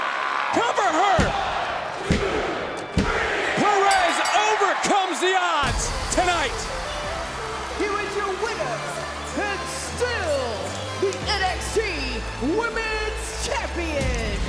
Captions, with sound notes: Cover her! One, two, three! (bell dinging) Perez overcomes the odds tonight. (crowd cheering) (upbeat music) Here is your winner and still the NXT Women's champion, Roxeanne Perez!